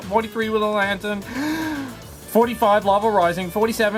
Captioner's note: inhales